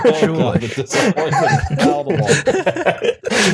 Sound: laughter

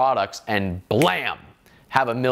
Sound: snaps fingers

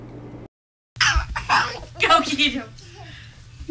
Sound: giggles

